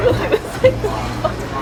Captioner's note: laughs